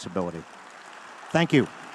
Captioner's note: audience applauding